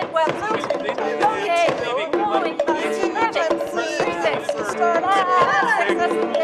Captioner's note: people speaking altogether indistinctly